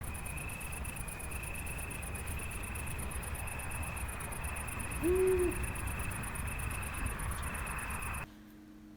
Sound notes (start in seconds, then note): 0.0 crikets chirping; 4.5 owl howling